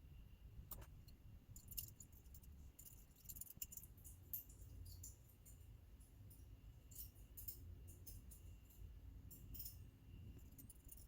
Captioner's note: very very quiet metallic clicking